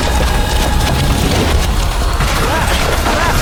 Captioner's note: devastation roaring